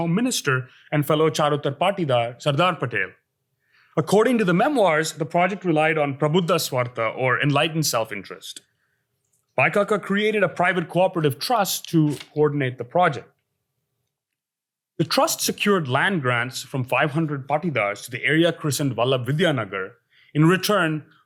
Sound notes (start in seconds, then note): 6.4 hindi